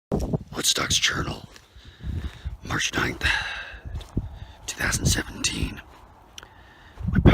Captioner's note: gravelly voiced